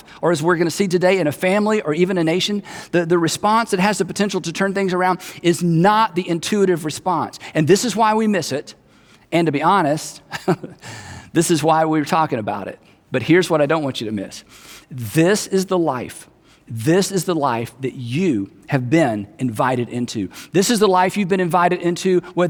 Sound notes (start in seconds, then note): 10.2 chuckles